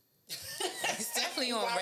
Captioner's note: laughing